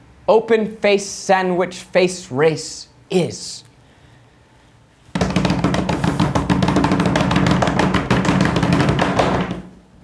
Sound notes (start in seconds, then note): 5.1 all pound on table for drum roll